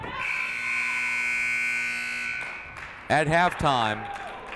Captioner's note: siren buzzing